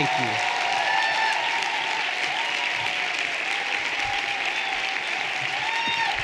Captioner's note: everyone applauding and cheering